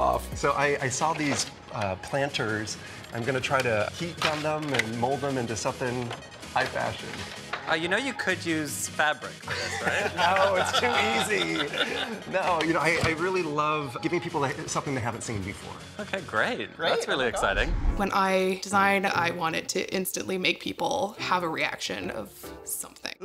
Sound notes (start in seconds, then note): 9.5 all chuckling; 17.3 image whooshes